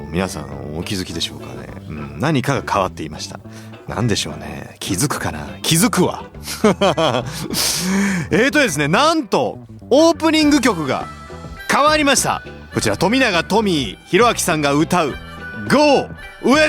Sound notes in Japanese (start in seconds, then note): 6.1 笑い; 7.2 息をのむ音